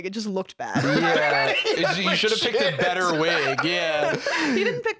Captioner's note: laughing